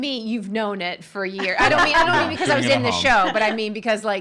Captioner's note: laughing